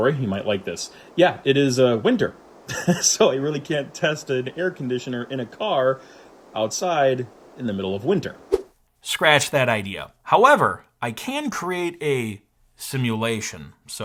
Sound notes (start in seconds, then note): 2.6 laughs